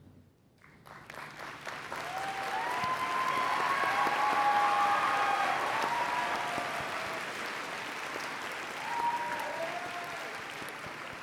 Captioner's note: applause and Cheering